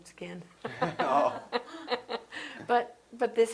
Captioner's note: laughter